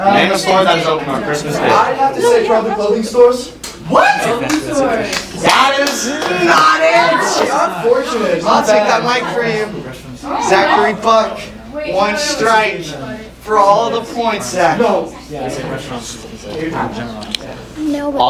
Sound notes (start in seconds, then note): 6.0 wrong buzzer; 10.2 talking